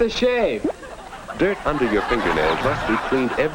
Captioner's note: audience laughs